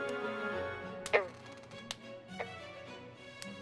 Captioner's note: frog croaking; door opens